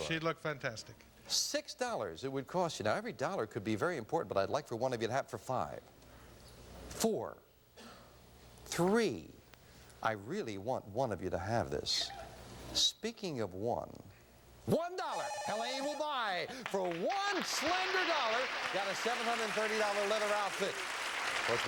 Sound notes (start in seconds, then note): 15.0 buzzer